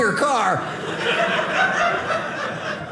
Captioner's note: audience laughing